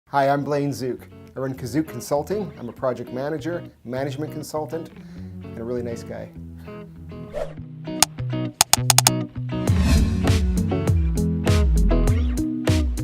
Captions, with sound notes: - Hi, I'm Blaine Zuk. I run KuzuK Consulting. I'm a Project Manager, Management Consultant and a really nice guy. (typing sounds)